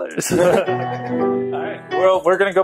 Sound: laughing

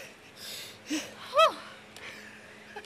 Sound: both exhaling

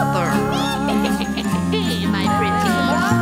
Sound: witch cackling

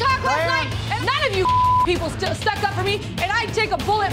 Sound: beep

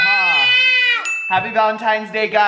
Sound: bell dings

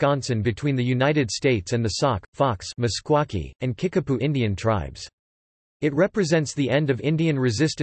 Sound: Meskwaki

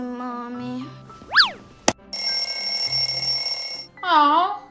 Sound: ringing noises

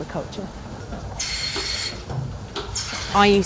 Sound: machine whirring

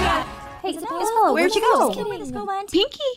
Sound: confused chatter

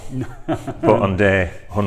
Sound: laughs

